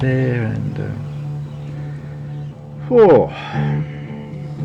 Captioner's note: sighing